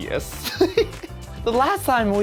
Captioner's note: chuckles